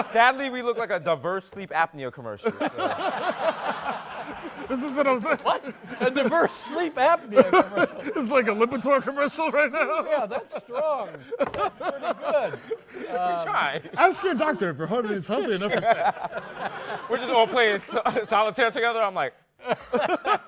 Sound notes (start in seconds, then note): 2.5 laughter